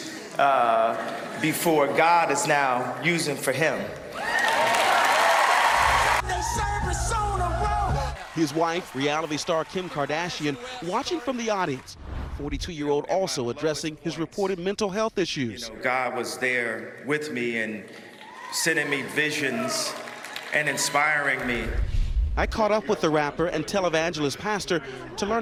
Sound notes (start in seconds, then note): 6.3 cheers and applause